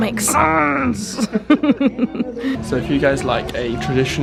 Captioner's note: laughs